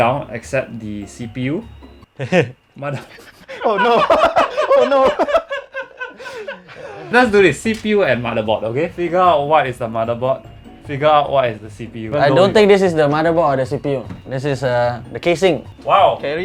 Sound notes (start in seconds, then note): 2.9 nervous laughter; 2.9 all laugh